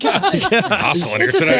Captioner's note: laughing